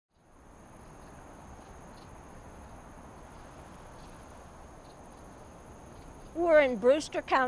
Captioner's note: light wind